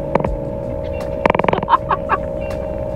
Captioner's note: laughter; music 1, car noises, unintelligible speaking